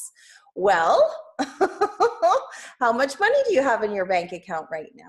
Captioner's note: laughs